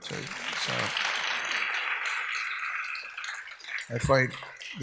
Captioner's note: audience applauds